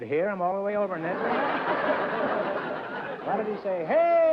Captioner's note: laughter